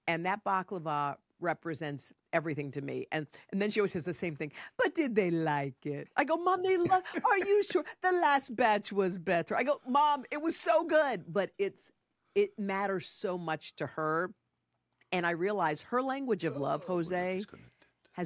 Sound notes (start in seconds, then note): 6.8 José laughs